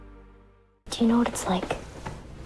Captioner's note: voiceover